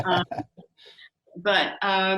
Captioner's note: laughs